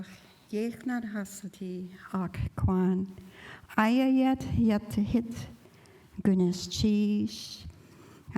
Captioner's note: speaking indigenous language